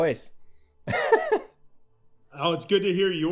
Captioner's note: laughing